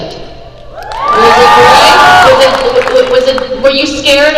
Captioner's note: crowd cheers